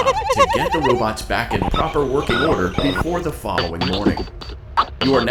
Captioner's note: muffled electronic sounds; strange honk; muffled electronic sounds